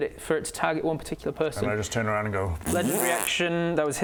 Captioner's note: pffpt